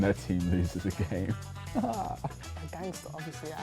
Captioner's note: laughs